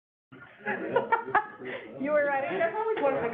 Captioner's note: laughs